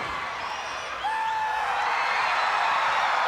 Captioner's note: Sting shouts; crowd cheers